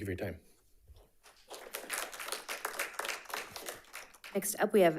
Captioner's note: audience applauding